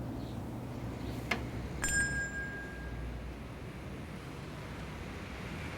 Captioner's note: shop bell rings